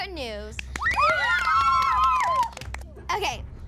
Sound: cheering

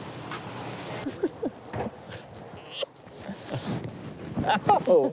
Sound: laughing; laughing

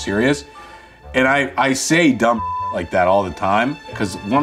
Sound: beeps

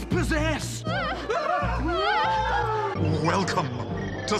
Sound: all whimper

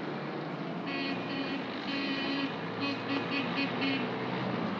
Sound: jeep horn honks

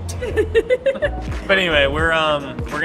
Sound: laughing

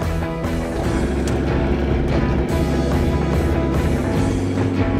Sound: engine roaring

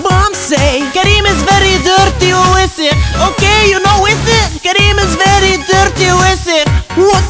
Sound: speaking Arabic

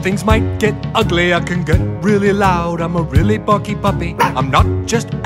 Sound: barks

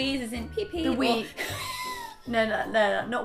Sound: wheeze

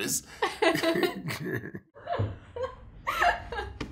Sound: laughter

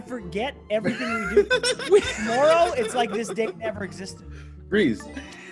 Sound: laugh

